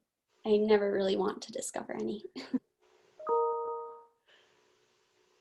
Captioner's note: chuckles